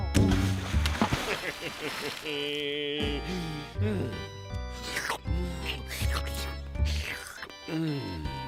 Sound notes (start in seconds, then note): 1.2 chuckles; 5.3 slurping